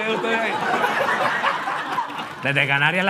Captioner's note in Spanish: Risas